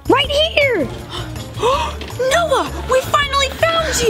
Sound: gasps

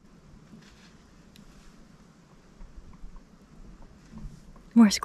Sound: rustling of leaves

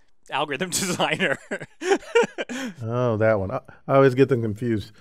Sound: laugh

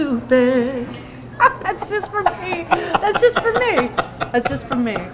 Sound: laughing

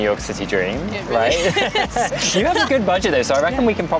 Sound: laughter

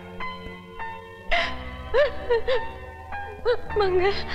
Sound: crying

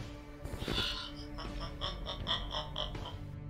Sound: laughs

